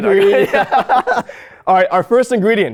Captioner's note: both laugh